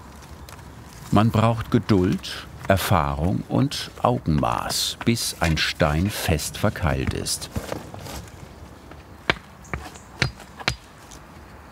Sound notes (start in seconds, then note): 10.2 hammering